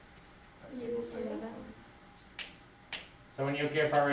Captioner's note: student answers faintly